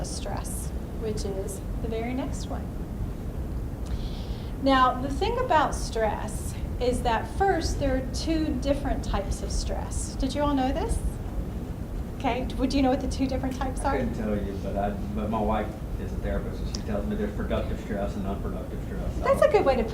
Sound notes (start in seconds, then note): 14.5 voiceover